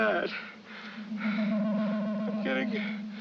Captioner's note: buzzing